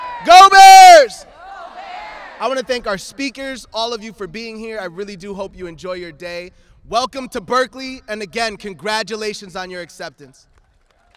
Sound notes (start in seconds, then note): 1.8 everyone shouting go Bears